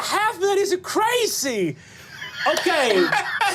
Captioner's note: laughing